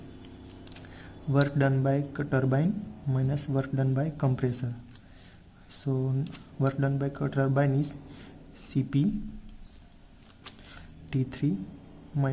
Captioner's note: work done by compressor